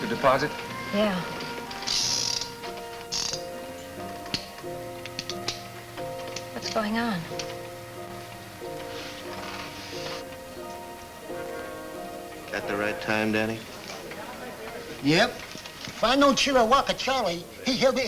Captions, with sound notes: - Did you make the deposit? - Yeah. (gun clicks) - What's going on? - That the right time, Danny? - Yep, if I know Chillawaka Charlie,